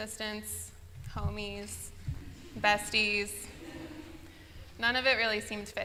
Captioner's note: laughter